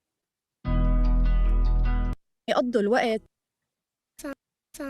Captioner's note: speaking foreign language